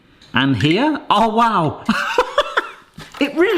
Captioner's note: laughs